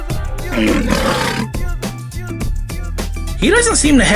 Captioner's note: lion's Roar